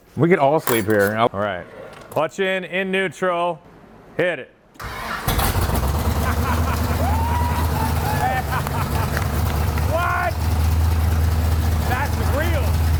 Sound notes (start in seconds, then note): 4.8 engine firing; 6.7 everyone cheering